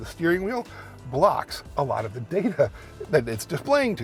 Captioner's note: chuckles